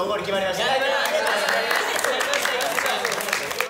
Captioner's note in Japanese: 拍手